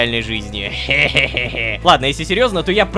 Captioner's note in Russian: хе-хе-хе-хе!